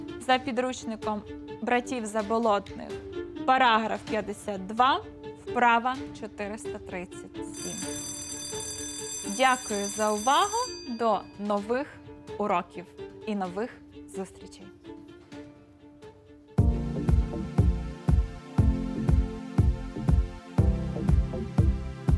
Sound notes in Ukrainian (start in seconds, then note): 7.5 лунає дзвінок